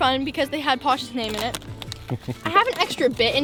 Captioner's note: laughs